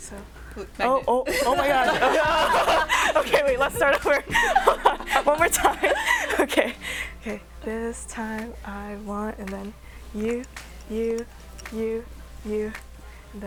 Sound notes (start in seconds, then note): 1.2 laughter